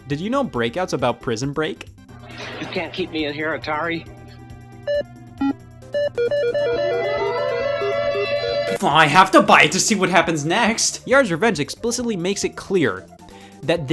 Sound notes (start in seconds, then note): 5.8 alarm blaring; 5.9 console beeping